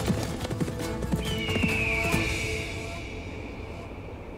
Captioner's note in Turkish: At nalı sesi; Kartal ötme sesi